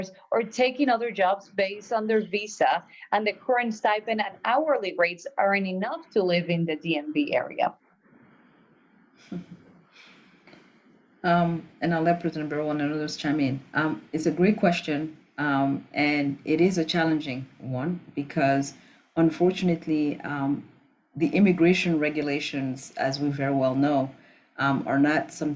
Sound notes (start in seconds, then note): 11.8 non-english speech